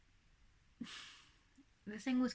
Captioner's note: snort